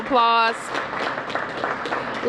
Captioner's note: applause